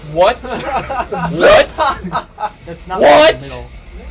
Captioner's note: is laughing